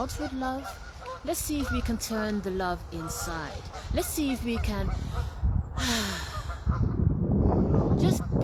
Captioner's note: sighs deeply